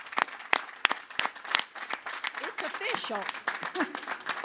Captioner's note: applause